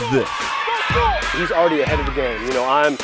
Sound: cheering

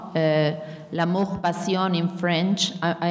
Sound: speaking in a foreign language

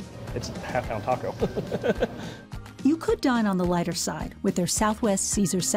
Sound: giggles

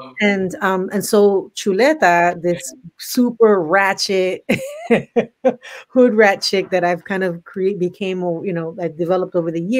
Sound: laughs

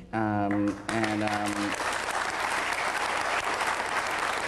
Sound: applause

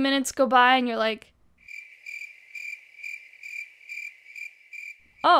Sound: cricket noises

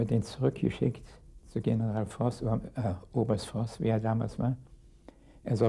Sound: speaking in a foreign language

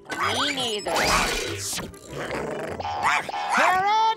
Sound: growling, barking

